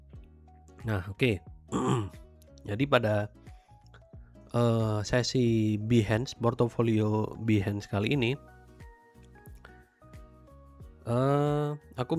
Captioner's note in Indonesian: berdehem